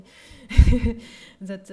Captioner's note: laughs